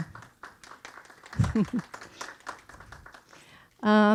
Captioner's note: audience clapping